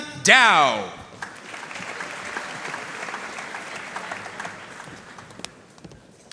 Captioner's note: audience cheering and applauding